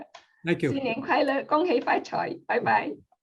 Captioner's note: non-english speech